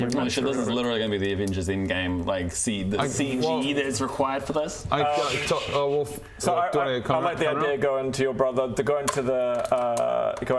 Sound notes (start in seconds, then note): none